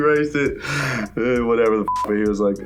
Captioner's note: beep